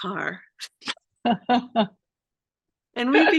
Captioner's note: laughter